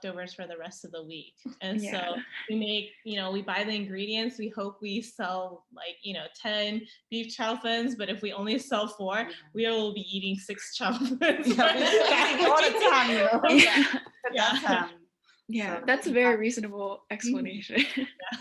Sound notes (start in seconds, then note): 12.6 laughter